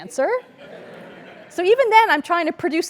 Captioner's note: laugh